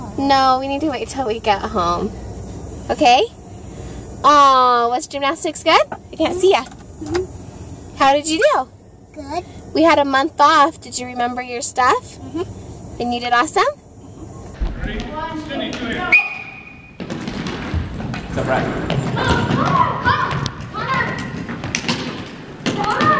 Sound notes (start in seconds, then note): 16.0 whistle; 19.6 shouting